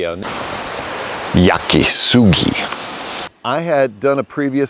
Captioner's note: speaks in foreign language